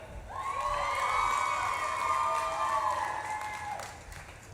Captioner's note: audience claps and cheers